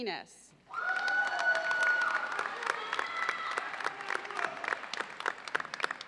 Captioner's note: audience cheers and applauds